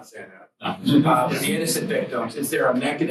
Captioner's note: students laugh